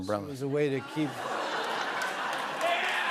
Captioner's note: laughter